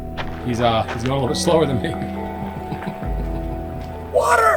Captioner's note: chuckling